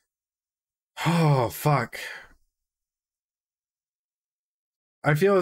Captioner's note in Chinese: 嘆氣